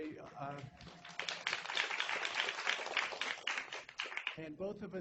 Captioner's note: applause